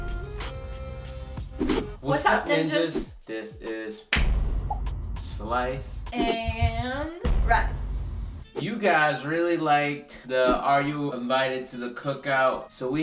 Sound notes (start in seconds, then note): 4.4 claps; 7.3 explosion